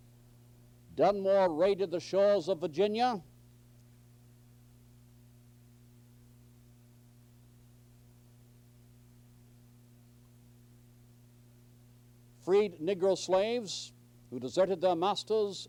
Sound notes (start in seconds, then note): 3.3 silence